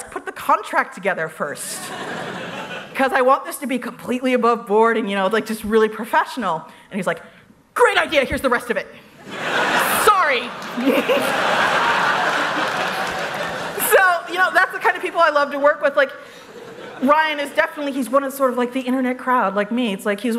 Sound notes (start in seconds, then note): 9.2 laughter